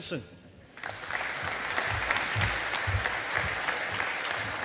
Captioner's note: audience applauding